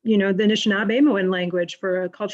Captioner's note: speaking foreign language